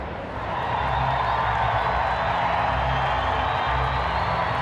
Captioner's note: crowd cheering continues